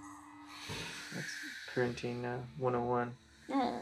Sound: a snarl from the TV

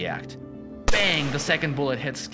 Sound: gunshot

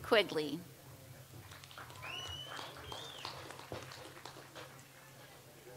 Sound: audience applauds

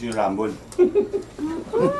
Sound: chuckles

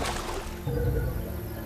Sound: wave breaking

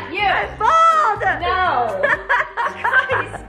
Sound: laughing

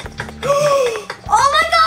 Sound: gasp

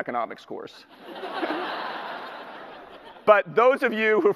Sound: audience laughter

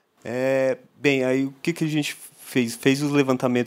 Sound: non-english speech

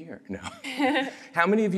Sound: laughter

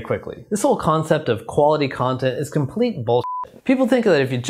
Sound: beep

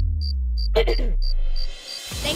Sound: throat clearing

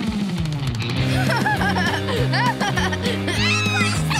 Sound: laughing

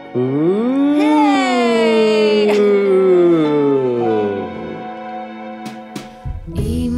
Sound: chuckles

